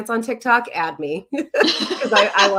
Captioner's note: laughing